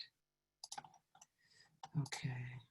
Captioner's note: mouse clicks